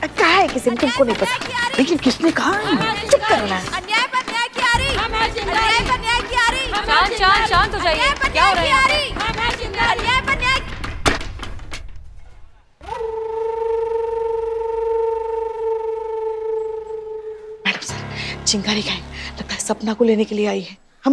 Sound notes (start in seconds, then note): 11.0 slams stick; 12.8 tense music